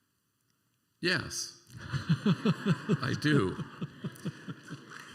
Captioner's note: laughter